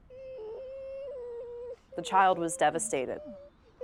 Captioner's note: Sarah sobbing